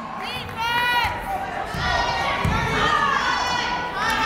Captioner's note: yelling